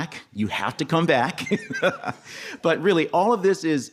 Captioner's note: laughs